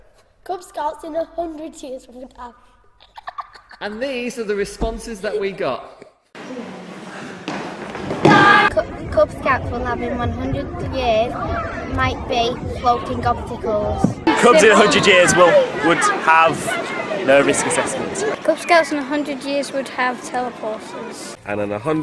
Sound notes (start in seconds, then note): 3.0 giggle